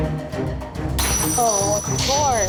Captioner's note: glass shatters